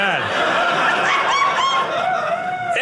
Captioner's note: audience laughing